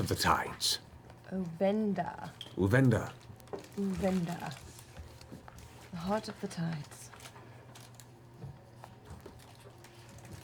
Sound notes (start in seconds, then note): none